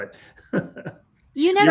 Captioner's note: laughs